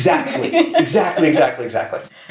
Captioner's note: laughs